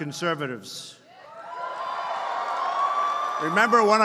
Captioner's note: applause